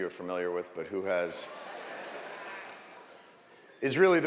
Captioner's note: laughter